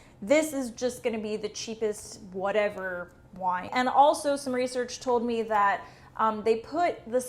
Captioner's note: none